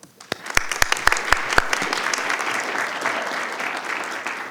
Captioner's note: audience applauding